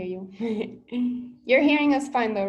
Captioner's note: laughs